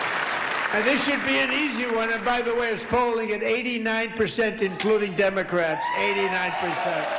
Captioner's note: applause